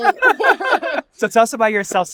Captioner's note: people laughing